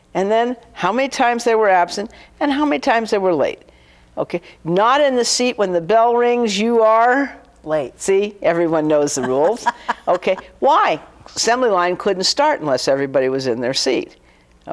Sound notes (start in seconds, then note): 8.8 laughing